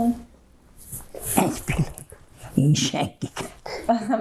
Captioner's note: laughing